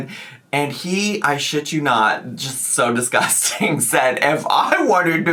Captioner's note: laughs